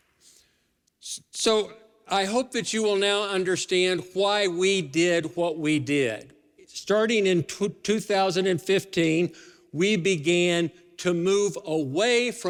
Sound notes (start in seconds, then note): none